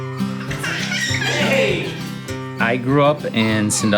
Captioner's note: guitar music; children laughing